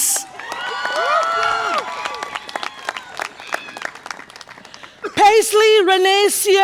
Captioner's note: audience applause and cheer